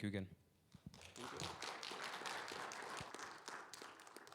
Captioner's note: crowd clapping